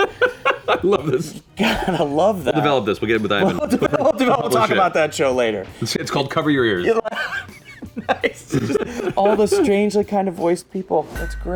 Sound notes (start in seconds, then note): 0.0 laughs; 7.0 laughs